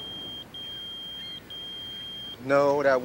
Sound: pager beeping

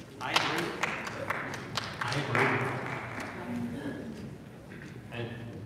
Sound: audience applauding

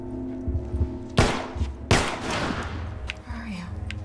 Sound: gunshots

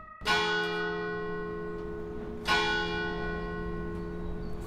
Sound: school bell rings

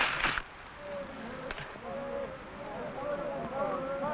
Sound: men shouting

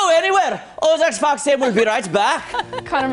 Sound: laughter

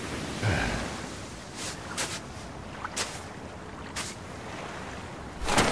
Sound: walks on sand; mechanical noise

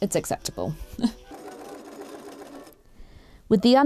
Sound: machine whirrs

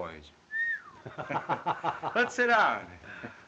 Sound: whistles

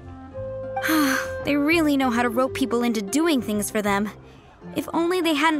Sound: sigh

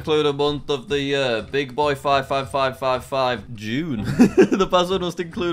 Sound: laughs

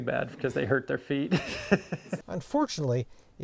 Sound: laughs

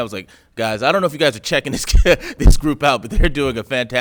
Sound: laughs

